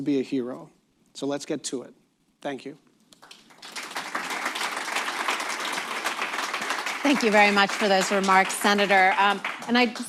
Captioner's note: applause